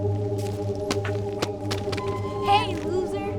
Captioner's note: water bottle hit